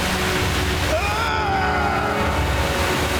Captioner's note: screaming